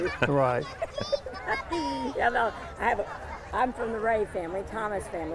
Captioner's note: person laughs